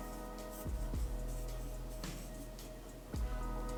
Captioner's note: sound of flour rubbing between fingers